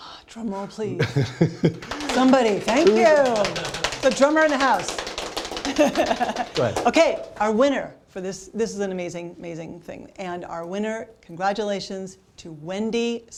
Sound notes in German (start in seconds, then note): 5.5 lachen